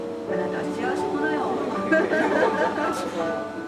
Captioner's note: laugh